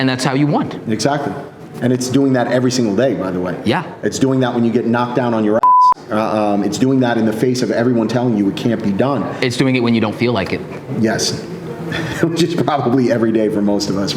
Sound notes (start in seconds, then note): 5.6 beep